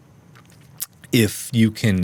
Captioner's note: lip smack